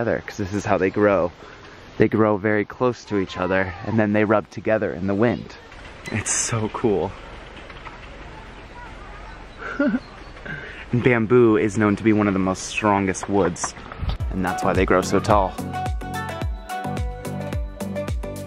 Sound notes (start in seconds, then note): 9.4 chuckling; 15.8 upbeat music